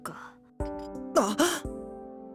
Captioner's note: gasp